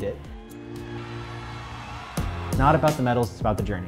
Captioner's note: audience cheering